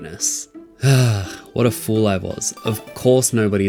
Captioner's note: sigh